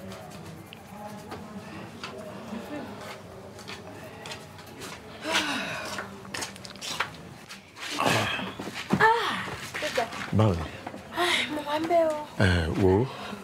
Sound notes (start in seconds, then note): 5.4 woman sighs; 9.0 woman sighs; 10.6 both speaking in foreign language